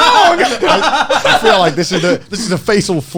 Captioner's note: all laughing